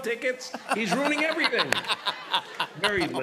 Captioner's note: laughter